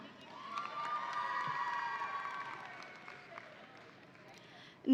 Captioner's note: audience applauding